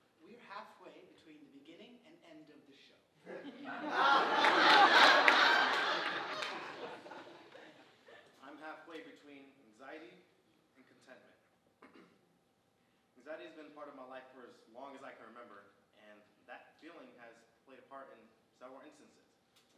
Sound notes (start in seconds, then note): 3.3 audience laughing